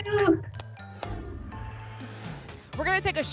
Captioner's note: whoosh